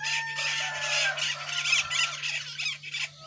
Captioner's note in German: Gegacker